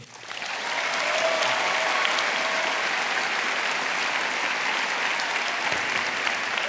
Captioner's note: audience applauding; audience cheering